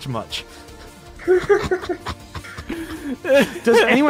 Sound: laughter

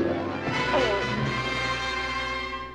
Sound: groans

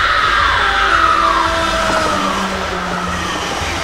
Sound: ghostly shriek accompanied by screaming; train horn

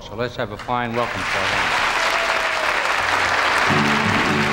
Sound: audience applauding; guitar playing

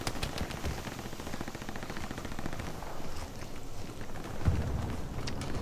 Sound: chips crunching

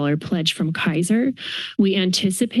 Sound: inhales

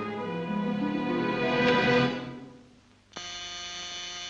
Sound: buzzer

